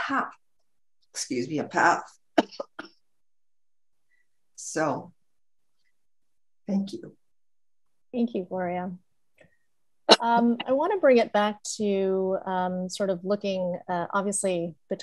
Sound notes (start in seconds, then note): 2.4 coughs